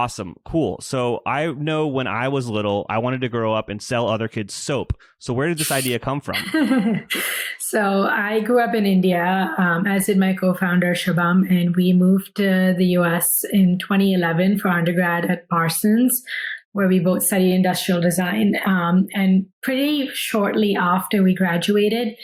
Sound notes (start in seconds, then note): 6.3 laughs